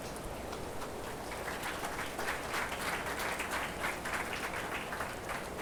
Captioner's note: attendees applauding